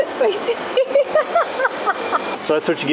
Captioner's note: laughter